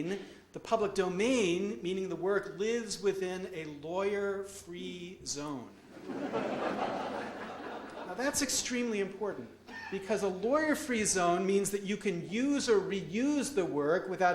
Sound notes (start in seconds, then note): 5.9 audience laughs